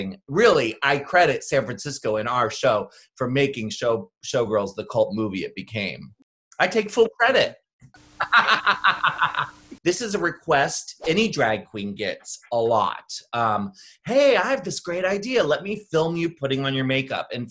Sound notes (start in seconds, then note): 8.2 cackles; 11.0 graphic whooshes